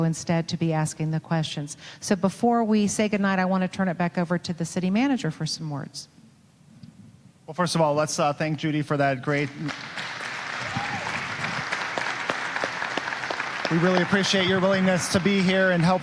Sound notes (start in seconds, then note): 9.4 audience applauding